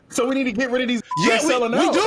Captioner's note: beep